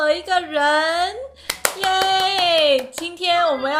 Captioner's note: clapping too early